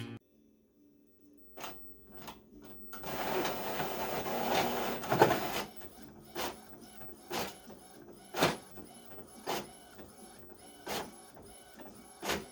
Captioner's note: printer noises